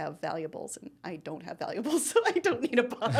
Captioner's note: laughing